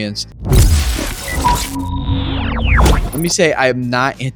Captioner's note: loud crashing